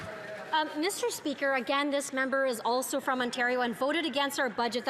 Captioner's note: some Applause